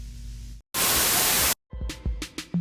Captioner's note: Static